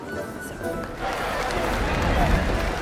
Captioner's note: cheering